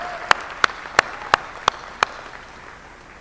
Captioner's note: applause